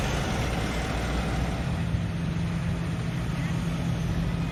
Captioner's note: engine running